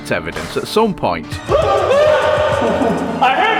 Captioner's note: man Screaming